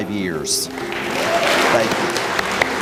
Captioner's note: applause